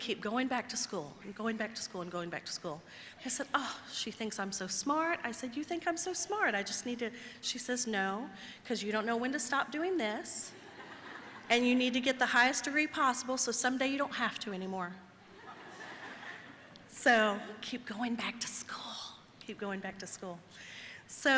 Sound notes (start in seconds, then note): 15.3 audience laughing